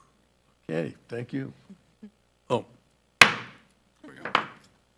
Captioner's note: gavel thumping